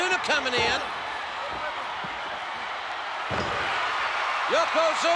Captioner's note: spectators cheering